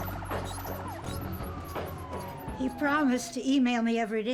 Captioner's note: sirens blaring